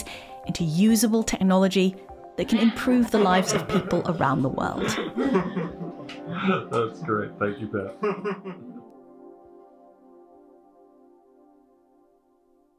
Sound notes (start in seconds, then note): 5.1 laughter